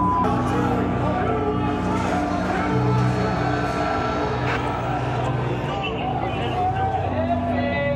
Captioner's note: people yelling